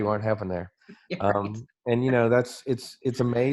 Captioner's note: laughs